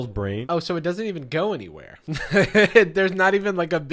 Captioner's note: laughing